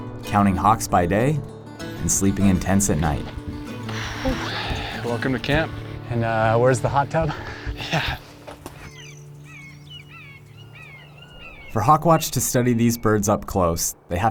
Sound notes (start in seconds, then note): 9.0 birds chirping